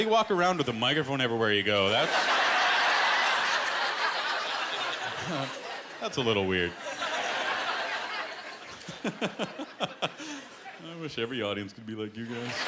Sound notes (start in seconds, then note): 1.9 laughter